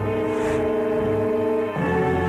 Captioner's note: gun shot; roaring